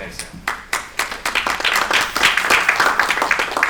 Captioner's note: applause